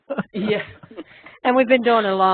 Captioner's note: laughing